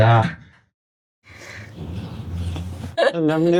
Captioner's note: laughing